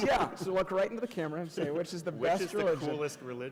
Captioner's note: laughter